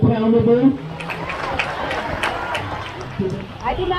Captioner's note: crowd